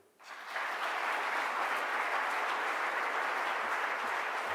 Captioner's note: audience applauds